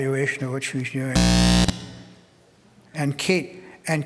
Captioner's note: audio feedback